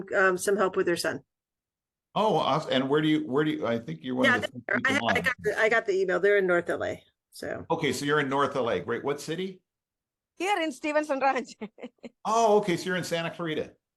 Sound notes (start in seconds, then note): 11.4 chuckles